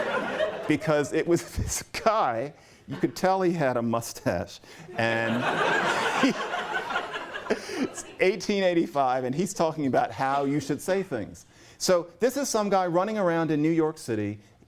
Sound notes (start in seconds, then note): 4.9 laughter